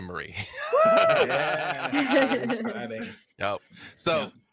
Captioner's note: group cheers